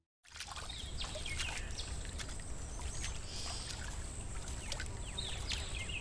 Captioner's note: water splashing and birds chirping